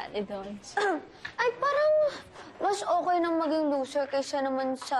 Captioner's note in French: clears throat